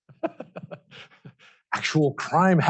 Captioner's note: laughs